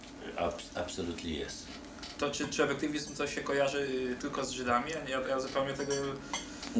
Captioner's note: speaking Polish